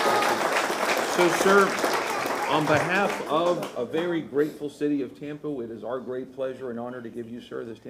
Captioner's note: applause